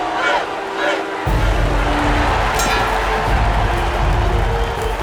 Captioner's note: crowd cheering